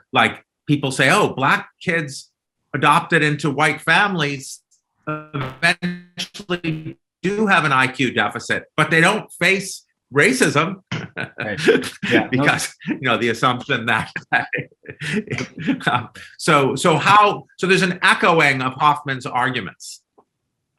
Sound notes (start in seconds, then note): 14.0 chuckling